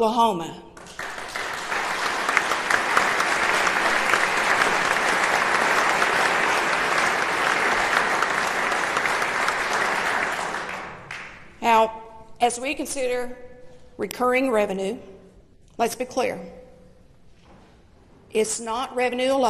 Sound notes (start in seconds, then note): 7.3 applause